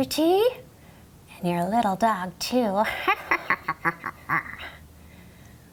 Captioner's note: cackles